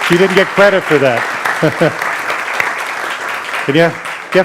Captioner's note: audience applauding